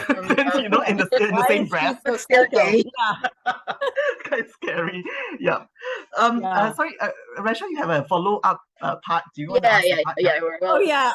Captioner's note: laugh